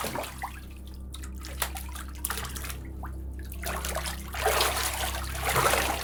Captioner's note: tense ambient music; water splashes